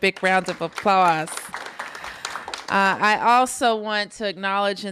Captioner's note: applause